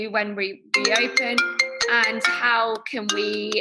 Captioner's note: telephone ringing